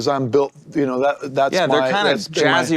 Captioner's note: mumbles